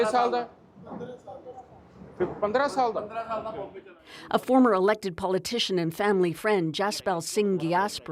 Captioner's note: speaking alternate language